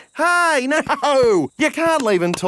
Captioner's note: laughing